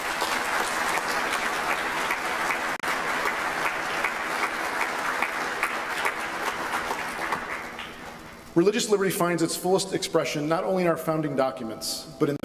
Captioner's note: applause